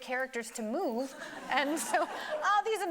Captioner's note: audience laughing